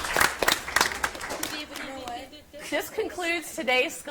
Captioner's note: audience applauds; contestants chatter